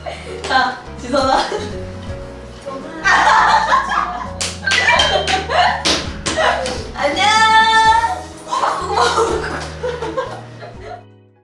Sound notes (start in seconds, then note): 8.3 hahaha